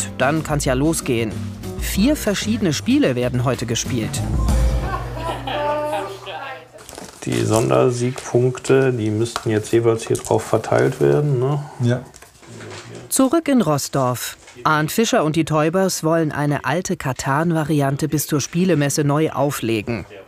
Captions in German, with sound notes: Dann kann's ja losgehen. Vier verschiedene Spiele werden heute gespielt. (Lachen) Die Sondersiegpunkte, die müssten jeweils hier drauf verteilt werden, ne. - Ja. Zurück in Roßdorf. Arnd Fischer und die Teubers wollen eine alte Catan-Variante bis zur Spielemesse neu auflegen.